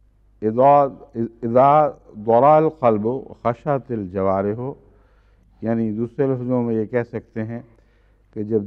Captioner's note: Arabic